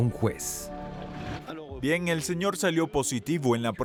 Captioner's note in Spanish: Audio hablado en francés